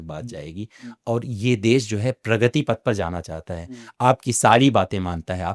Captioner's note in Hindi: नाक से की जाने वाली आवाज़